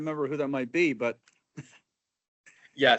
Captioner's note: laughing